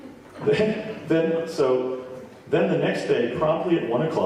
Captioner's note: laughs